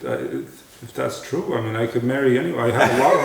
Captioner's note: laughter